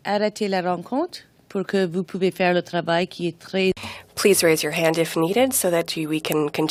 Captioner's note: speaking french